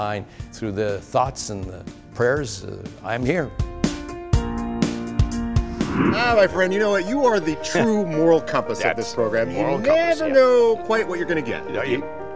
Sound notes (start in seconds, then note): 3.7 gentle upbeat music; 5.7 air whooshing